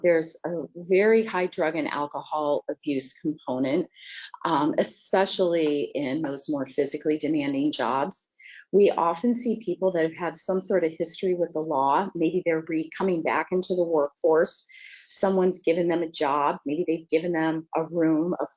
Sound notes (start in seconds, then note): none